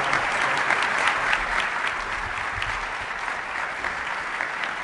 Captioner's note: applause